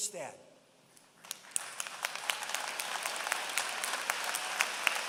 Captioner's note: applause